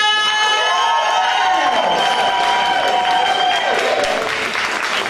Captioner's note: crowd applauding and cheering